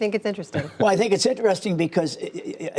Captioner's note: laughter